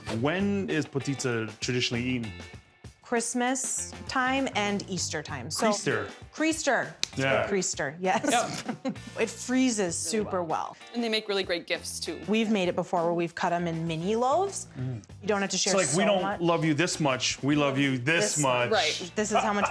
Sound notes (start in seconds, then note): 8.2 laughing